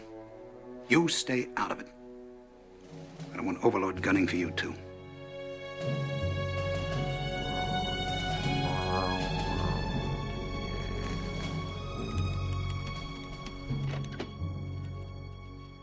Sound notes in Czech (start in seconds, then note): 7.6 Bzučení; 13.4 Dveře se otvírají